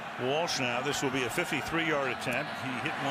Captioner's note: cheering